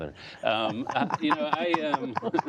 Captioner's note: laughter